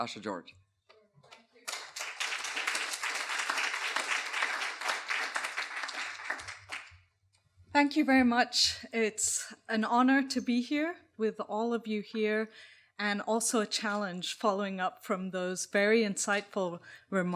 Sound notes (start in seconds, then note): 1.3 applause